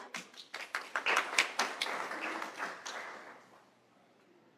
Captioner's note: applause